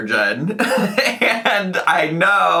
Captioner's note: laughs